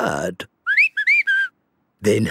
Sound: whistling

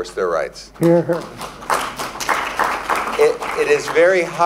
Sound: applause

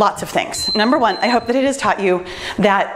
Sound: timer beeps

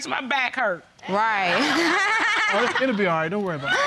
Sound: laughs

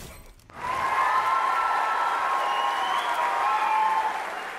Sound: crowd cheering

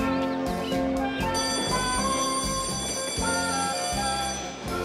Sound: bell ringing

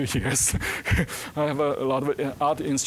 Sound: laughing

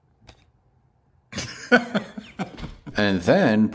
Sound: laughter

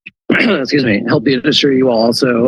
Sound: clears throat

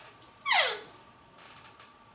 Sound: squeek

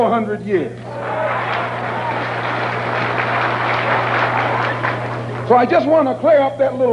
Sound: applause

